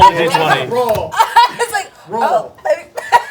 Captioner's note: laughing